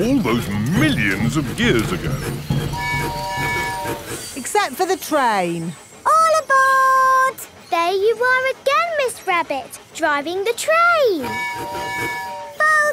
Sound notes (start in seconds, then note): 2.8 train tooting; 11.2 tooting